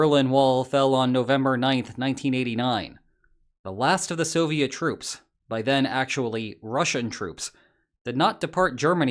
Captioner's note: Russian